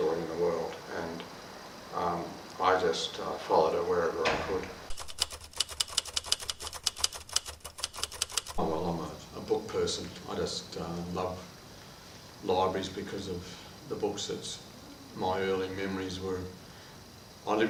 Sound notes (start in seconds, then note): 4.8 typewriter clicking